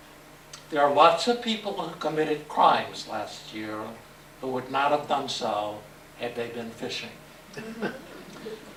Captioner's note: laughter